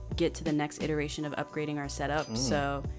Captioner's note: register dings